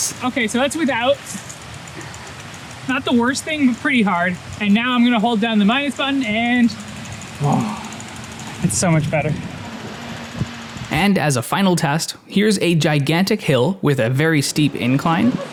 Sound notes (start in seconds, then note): 7.5 sigh